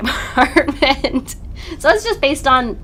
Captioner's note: laughs